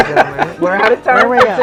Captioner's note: laughs